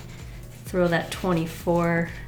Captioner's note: none